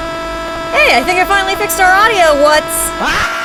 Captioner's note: meme screaming sound from "pizza tower"; meme screaming sound from "pizza tower"